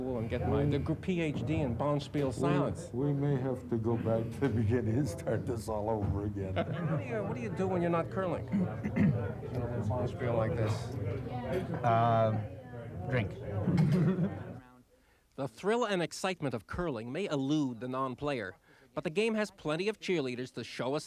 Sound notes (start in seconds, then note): 13.5 laughing